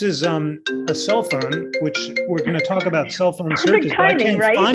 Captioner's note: phone ringing